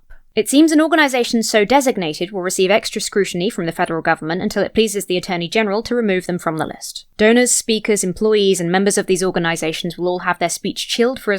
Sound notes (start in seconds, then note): none